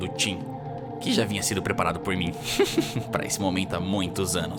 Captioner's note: chuckle